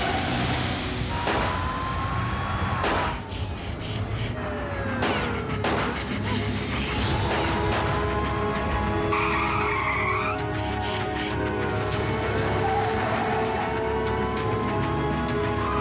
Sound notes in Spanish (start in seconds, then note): 1.2 ruido de sirenas y disparos; 9.0 chirrido de neumáticos